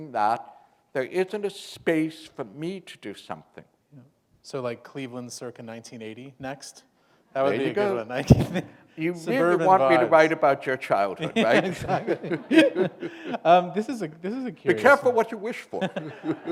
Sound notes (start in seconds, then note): 12.4 chuckle